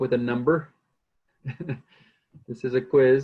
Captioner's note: laughs